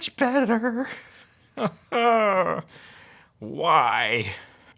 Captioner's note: laughs lightly